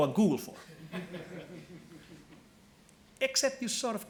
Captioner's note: laughing